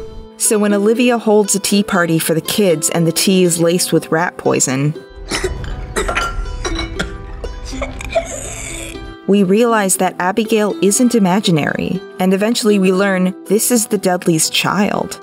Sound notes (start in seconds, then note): 5.2 choking and coughing sounds